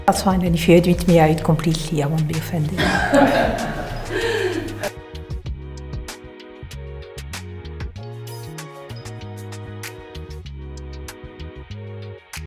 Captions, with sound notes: That's fine, and if you edit me, I won't be offended. (person behind camera laughing) (chilled upbeat music)